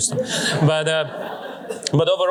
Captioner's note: laughter